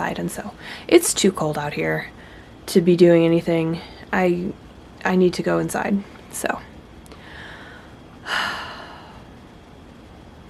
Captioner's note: sigh